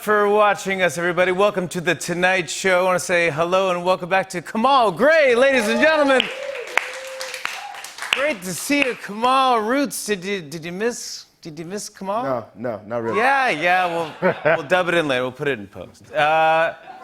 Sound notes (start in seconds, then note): 5.5 cheers and applause